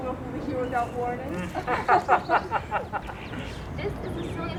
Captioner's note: laughing